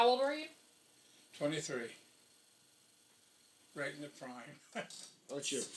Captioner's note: laughing